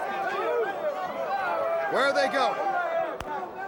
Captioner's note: crowd chatter